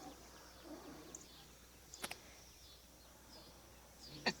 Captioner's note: birds chirping